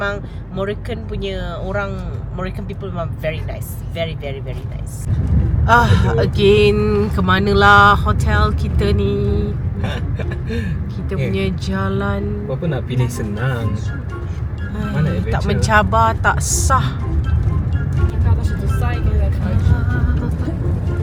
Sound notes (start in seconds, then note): 10.2 laugh